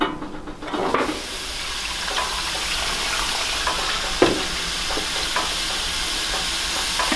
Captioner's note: water dripping; water and food steaming; water pouring